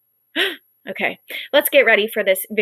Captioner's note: gasp